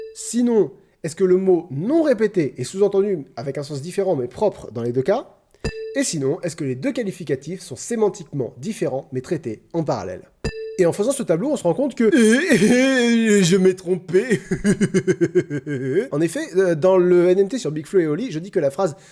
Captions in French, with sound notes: Sinon, est-ce que le mot non répété est sous-entendu avec un sens différent mais propre dans les deux cas ? Et sinon, est-ce que les deux qualificatifs sont sémantiquement différents mais traités en parallèle ? Et en faisant ce tableau, on se rend compte que *Onomatopées incompréhensibles et volontairement stupides* Je m'est trompé ! *rire stupide* En effet, dans le NMT sur BigFlo & Oli, je dis que la phrase